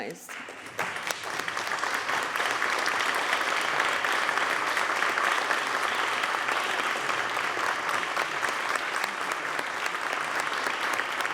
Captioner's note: applause